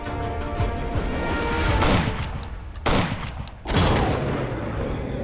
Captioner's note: boutet firing